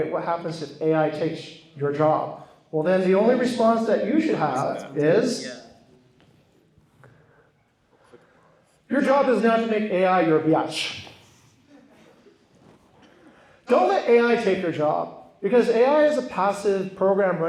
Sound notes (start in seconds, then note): 11.6 laughter